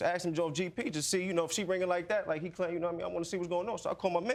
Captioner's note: stammers